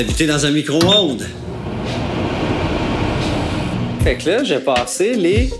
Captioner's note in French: bruit d'un micro-onde